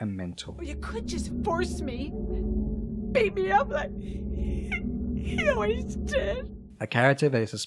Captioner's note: sobs